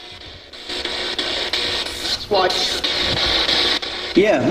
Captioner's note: static buzzing